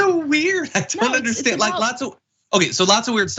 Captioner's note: laugh